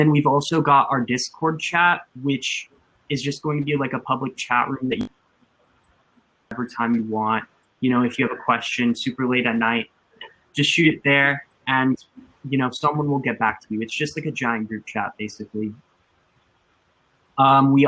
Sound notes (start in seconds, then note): 5.2 technical glitch